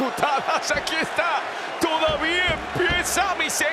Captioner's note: laugh